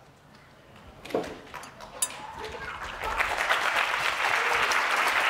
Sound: applause

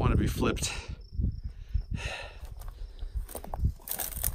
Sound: sigh

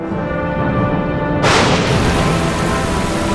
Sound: lightning crashes; rain pours

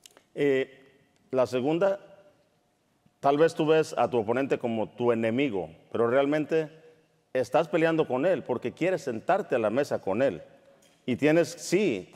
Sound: speaking in Spanish

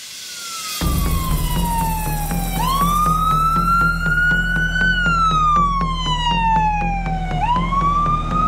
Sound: ambulance sirens blaring

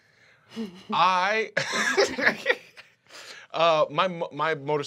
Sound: chuckles

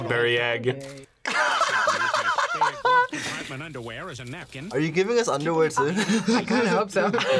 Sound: laughs; both laugh

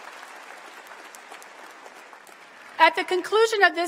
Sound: applause

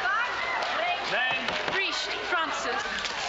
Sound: people yelling

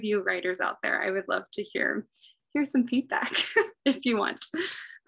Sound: laughs

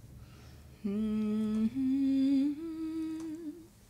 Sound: melodic humming

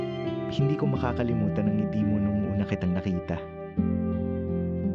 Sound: man narrating in Filipino

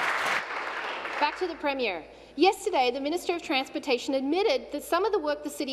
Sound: applause

